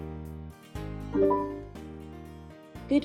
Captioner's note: beep